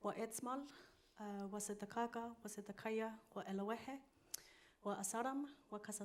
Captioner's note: continues speaking in foreign language